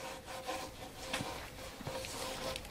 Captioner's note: soft scraping